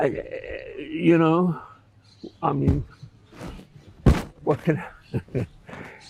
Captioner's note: laughing